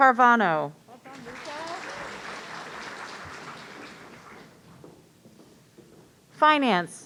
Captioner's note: audience applauding